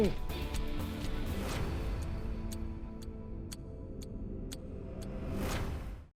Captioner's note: clock ticking; dramatic music